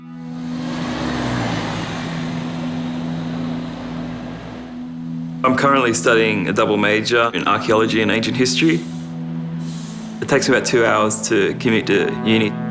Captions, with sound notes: (sombre music) - (Voiceover) I'm currently studying a double major in archaeology and ancient history. It takes about two hours to commute to uni.